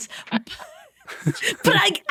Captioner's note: group chuckling